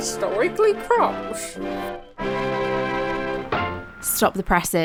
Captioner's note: upbeat music; radio noises